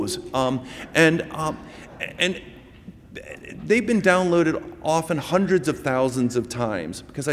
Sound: laughter

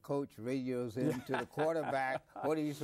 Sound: laughs

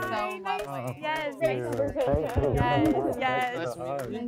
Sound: group chattering

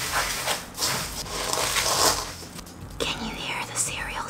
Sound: banana squishing; spoon whirring; Corn Flakes crunching

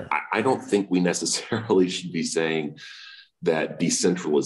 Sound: laughs

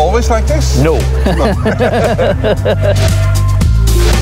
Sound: chuckle

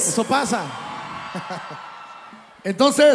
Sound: laugh

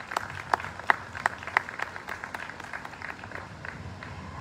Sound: applause

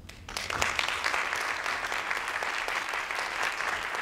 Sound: audience claps

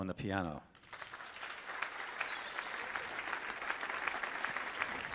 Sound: audience applauding

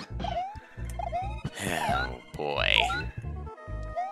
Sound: sigh

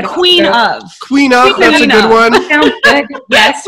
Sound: laughing

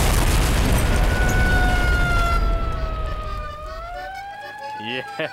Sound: siren wailing

